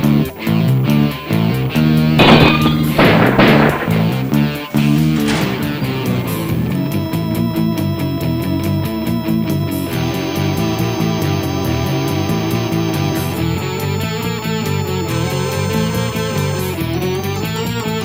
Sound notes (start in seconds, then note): 1.3 gun fires; 2.1 ceramic shatters; 9.9 tense music